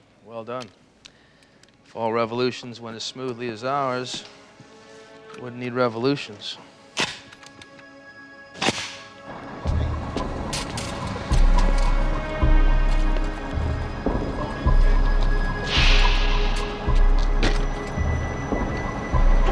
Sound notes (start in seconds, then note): 7.2 weapon clicks; 9.4 suspenseful music